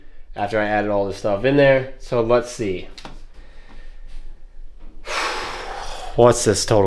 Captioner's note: sighs